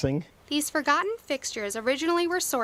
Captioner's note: voiceover